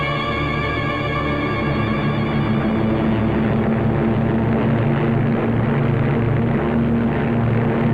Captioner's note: roar of fighter aircraft